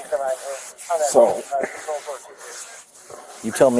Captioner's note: radio chatter